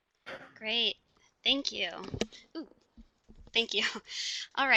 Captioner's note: microphone falling